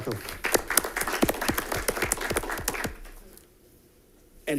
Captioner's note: audience applauds